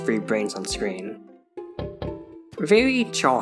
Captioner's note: tap Tap